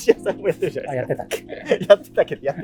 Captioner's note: laughing